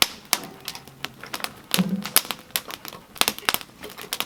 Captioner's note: fire popping